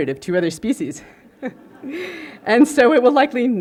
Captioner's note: laughter